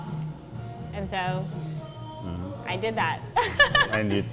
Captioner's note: laughs